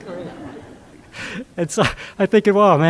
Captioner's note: audience laughs